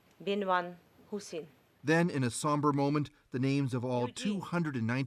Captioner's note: speaking Foreign Language